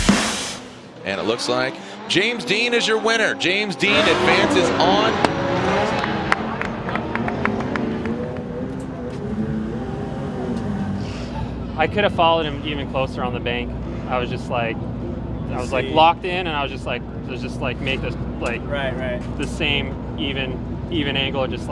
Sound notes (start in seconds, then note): 5.9 clapping